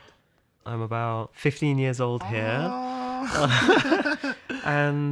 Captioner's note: laughs